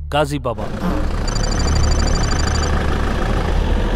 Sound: car sound

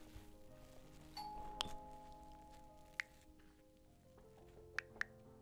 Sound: ding-dong🔔

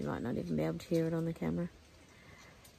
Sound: none

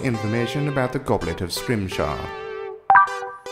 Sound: beep

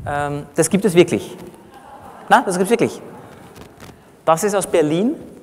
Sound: laughter from the audience

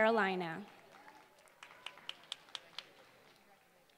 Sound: applause

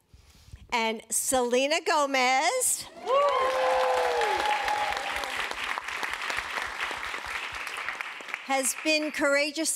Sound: applause

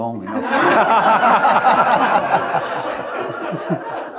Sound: audience laughing

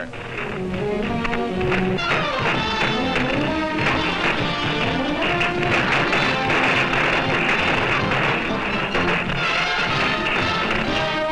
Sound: music, explosions

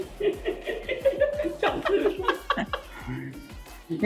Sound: laughs

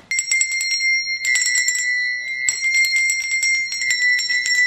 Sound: bell ringing

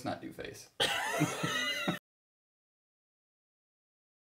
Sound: laughing

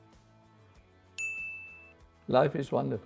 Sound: bell rings

